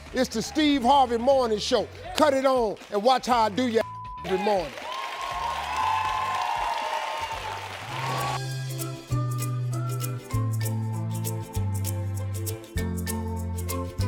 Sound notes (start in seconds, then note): 4.2 audience cheering; 4.8 happy tune